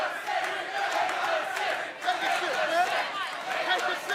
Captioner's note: crowd chatter